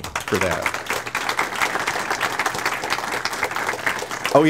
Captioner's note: audience applauds